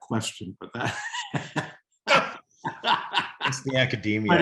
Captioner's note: group laughing